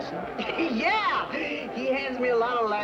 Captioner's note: laughing